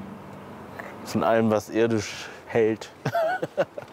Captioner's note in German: Er lacht